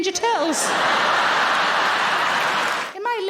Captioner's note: audience laughing